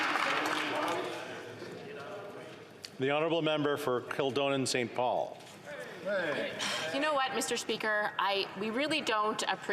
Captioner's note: some Applause